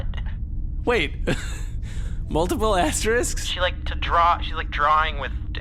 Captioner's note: Pleck laughs